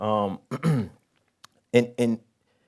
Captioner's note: clears throat